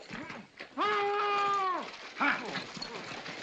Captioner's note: deputy continues moaning